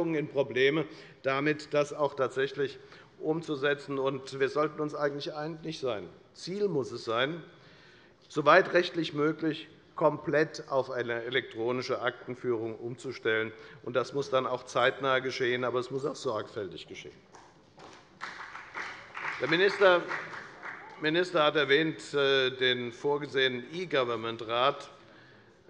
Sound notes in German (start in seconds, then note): 17.8 Beifall bei der FDP